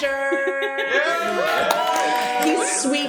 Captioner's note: cheers and applause